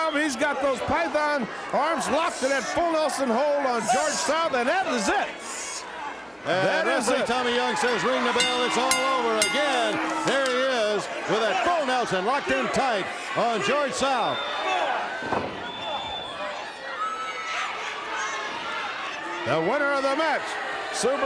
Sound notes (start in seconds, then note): 6.1 crowd chatter